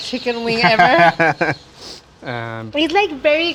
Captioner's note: laughs